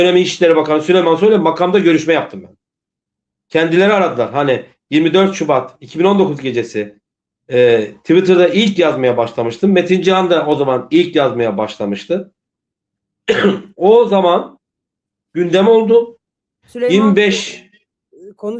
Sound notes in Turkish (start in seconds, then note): 13.2 boğazını temizler